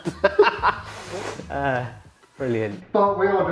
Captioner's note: laughs